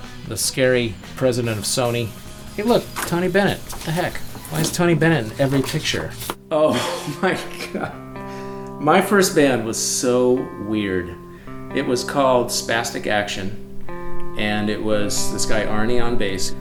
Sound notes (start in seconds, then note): 6.7 laughs